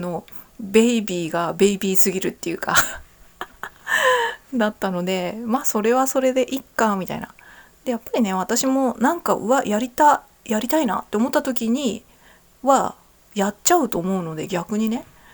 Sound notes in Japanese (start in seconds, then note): 4.1 息をのむ音